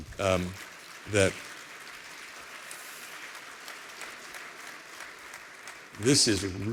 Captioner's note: applause